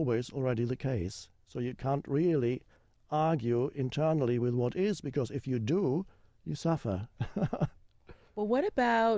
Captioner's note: chuckles